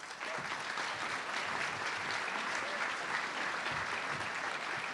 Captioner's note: audience clapping